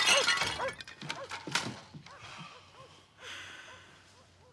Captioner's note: dog barking